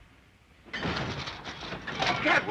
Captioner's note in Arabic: صوت القطار